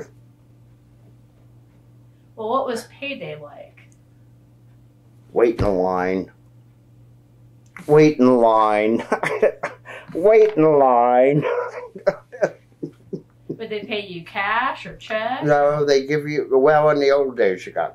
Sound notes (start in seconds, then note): 11.2 laughs